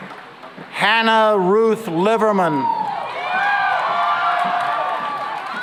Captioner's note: cheering and applause